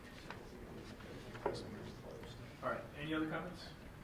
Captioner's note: whispering